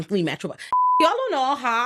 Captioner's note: beep